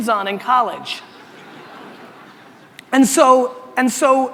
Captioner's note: audience laughter